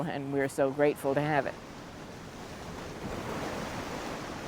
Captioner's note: waves crashing